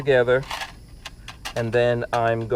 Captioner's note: rattling